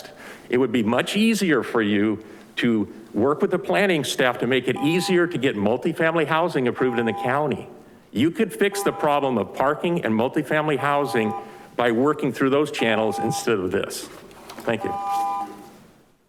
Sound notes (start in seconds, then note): 4.7 continuous beeping